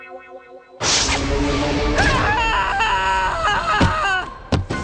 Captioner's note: screaming